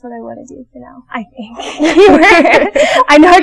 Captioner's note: both laughing